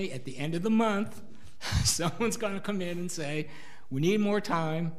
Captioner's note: laughs